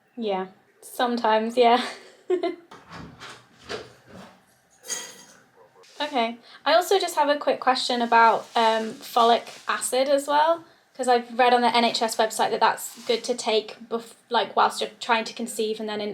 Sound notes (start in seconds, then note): 1.5 laughs; 2.7 door clanking; 3.0 utensils clanking